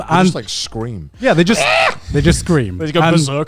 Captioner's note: screeching